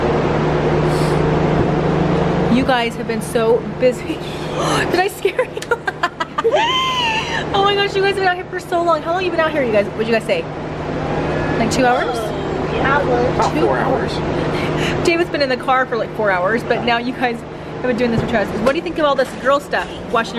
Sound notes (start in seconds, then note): 4.3 gasps; 4.6 laughs